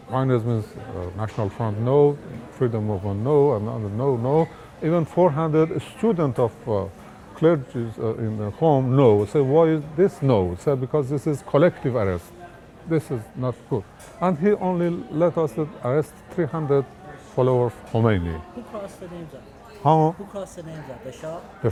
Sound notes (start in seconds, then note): none